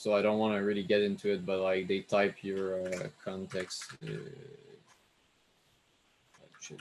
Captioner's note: mumbles to himself